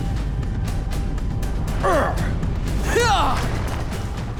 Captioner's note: grunting